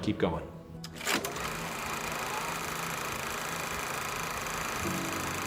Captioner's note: casette whirring